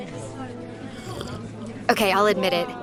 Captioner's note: slurps coffee